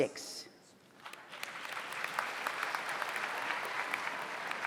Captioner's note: audience applauds